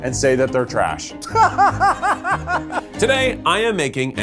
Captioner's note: laughs